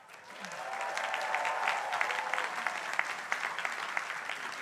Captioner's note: crowd applauding